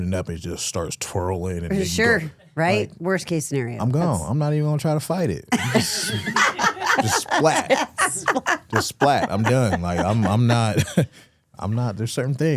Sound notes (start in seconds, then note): 5.5 hosts laughing